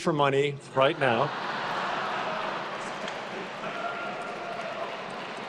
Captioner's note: attendees laughing